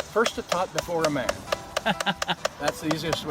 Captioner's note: laughing